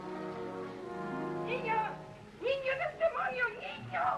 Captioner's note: yelling in Spanish